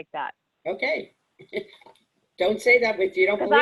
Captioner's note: laughs